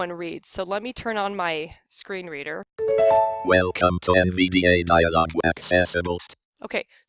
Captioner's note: NVDA speaking